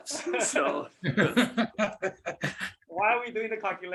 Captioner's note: laughter